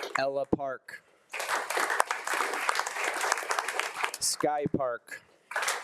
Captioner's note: attendees applauding